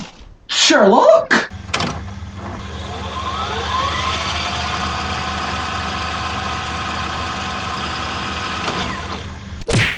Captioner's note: fast forward sound effect